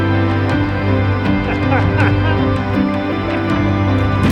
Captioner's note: laughs